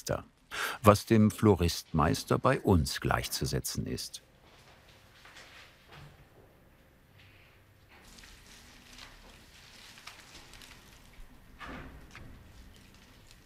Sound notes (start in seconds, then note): 7.8 quiet crackling